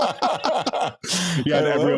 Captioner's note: laughing